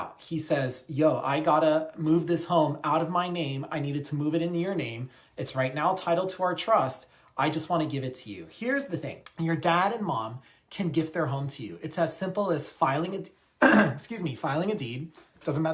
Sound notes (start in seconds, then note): 13.6 clears throat